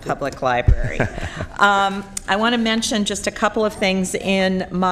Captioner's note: laughter